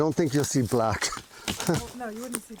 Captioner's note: chuckles